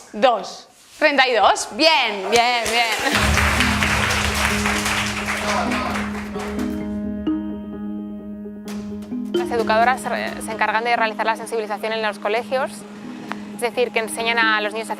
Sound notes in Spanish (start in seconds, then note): 2.5 aplausos